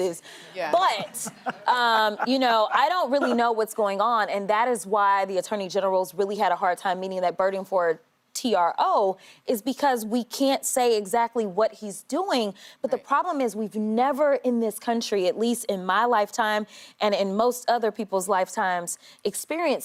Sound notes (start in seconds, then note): 2.8 laughter